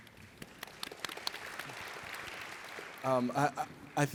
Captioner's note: audience applauds